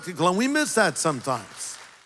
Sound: audience clapping

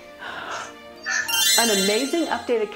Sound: magical tinkling

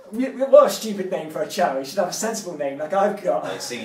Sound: laughing

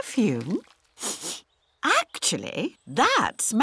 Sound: sniffs

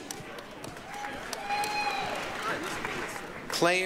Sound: applause, cheering

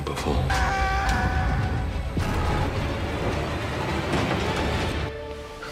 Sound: screaming

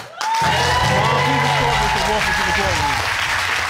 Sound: audience applauding

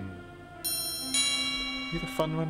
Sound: door bell chimes

